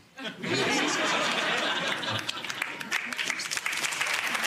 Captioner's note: audience laughs; audience claps